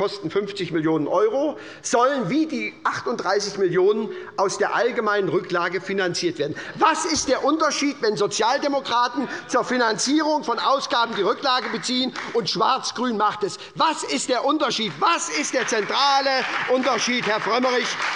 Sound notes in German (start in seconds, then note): 14.8 Beifall bei Abgeordneten der SPD